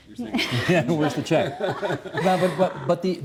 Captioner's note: all laughing